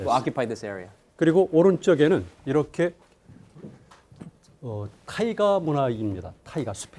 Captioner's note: speaking in Korean